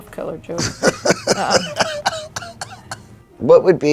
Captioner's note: laughing